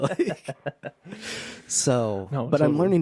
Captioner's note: laughing